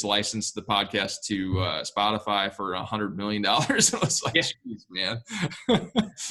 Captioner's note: laughs